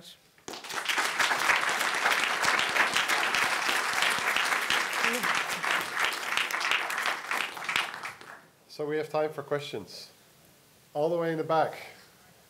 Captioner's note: audience applause